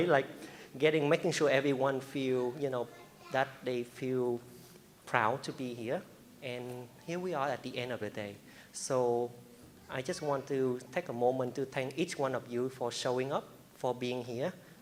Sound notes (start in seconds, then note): none